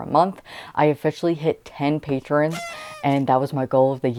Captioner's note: party horn